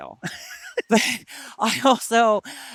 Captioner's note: laughs